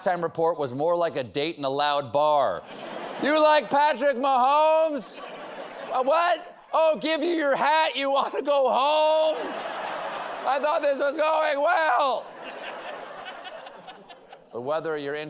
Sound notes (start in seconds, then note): 6.2 shouting; 12.3 laughter